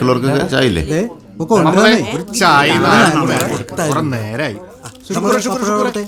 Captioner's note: indistinct chatters